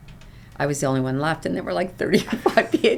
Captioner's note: laughs